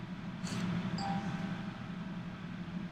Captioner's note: laptop dinging